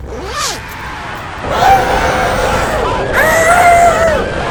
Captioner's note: fire explodes; people screaming